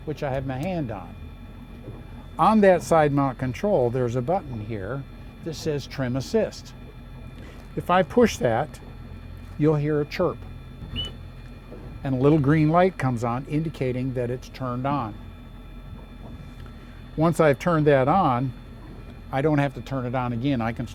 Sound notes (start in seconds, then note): 10.9 chirp